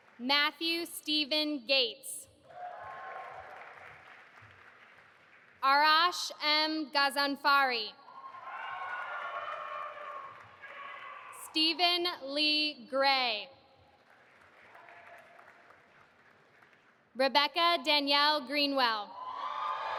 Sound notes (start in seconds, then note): 0.0 audience applauding; 2.5 audience applauding; 8.2 audience applauding; 19.4 audience applauding and cheering